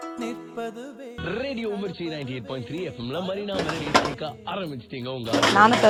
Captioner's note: radio playing